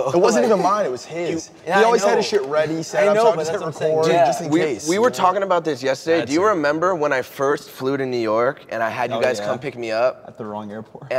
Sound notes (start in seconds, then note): none